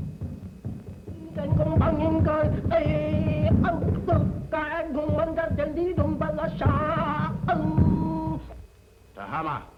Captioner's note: chanting in foreign language